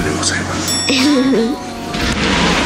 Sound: laughs

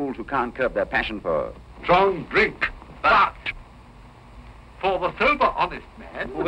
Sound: none

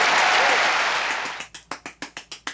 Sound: clapping

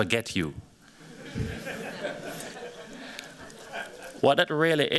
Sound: laughter

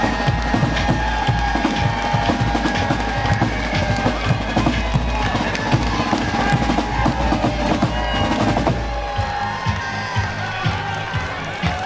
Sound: cheering; drumroll

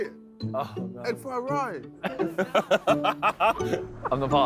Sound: all laughing

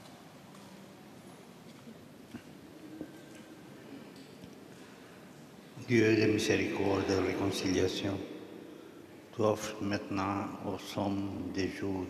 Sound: speaking Alternate Language

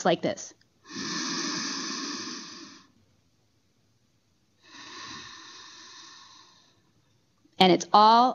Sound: breathing

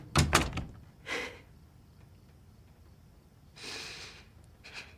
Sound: cries

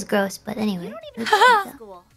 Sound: laughs

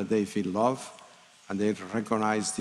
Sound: speaking in spanish

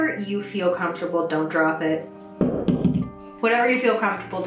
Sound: dog drops object

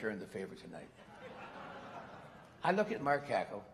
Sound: laughter

